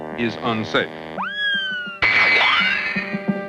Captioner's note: girlish shrieking